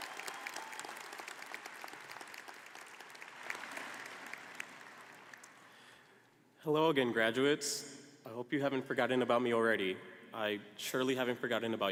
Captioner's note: applause